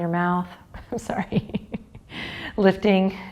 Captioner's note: chuckles